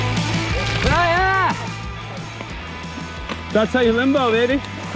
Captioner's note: shouting